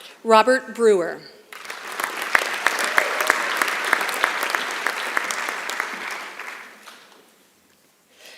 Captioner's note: applause